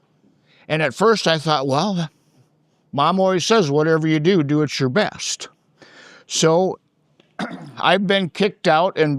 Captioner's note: clears throat